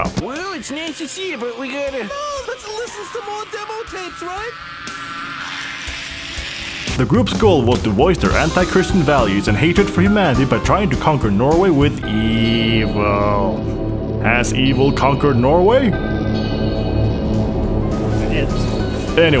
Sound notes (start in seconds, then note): 5.3 kvlt screeching